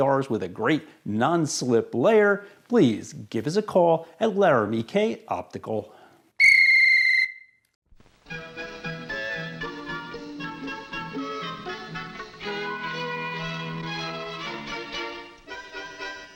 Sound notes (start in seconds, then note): 6.4 whistle blows; 8.4 goofy music